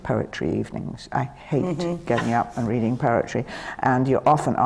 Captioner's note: laughs